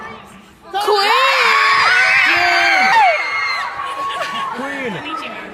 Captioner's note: audience cheers